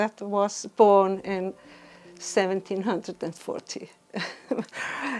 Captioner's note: chuckles